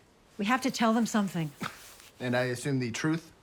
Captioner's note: scoffs